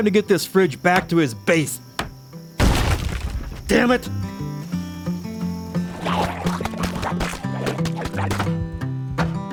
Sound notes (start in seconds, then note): 2.6 breaking Sounds